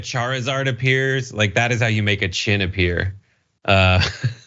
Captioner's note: laugh